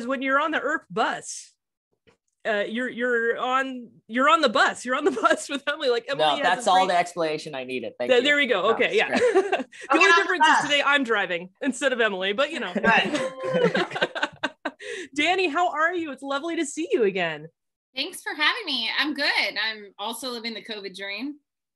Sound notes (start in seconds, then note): 12.7 laughing